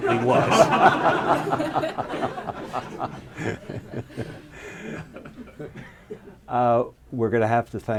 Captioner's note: laughter